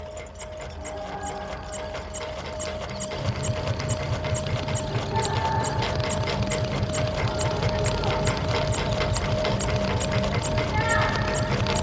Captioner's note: muffled voice